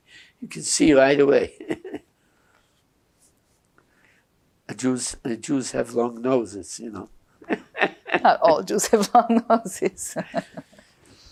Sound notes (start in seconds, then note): 1.5 laughing; 7.4 laughing